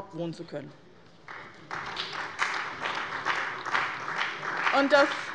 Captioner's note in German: Beifall bei dem BÜNDNIS 90/DIE GRÜNEN und der CDU